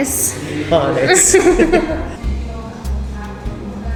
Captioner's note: laughter